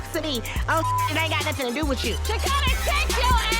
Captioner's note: beep